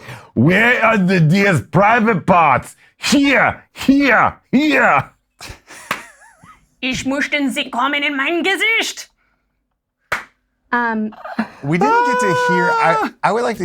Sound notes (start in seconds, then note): 5.4 laughs; 6.9 speaks German